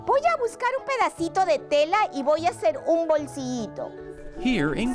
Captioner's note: teacher speaking Spanish